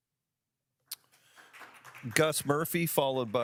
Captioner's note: audience applauds